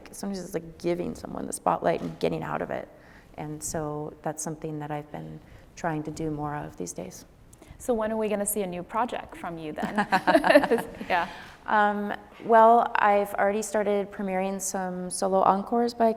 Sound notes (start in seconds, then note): 9.8 laughing